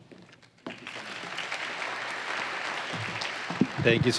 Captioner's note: applause